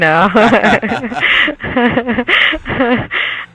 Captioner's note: laughing